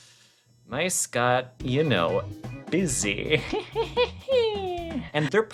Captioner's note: silly laughter